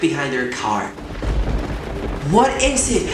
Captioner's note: thunder